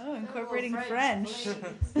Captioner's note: laughter